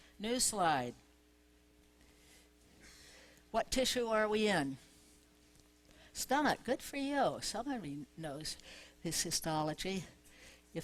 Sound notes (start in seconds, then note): none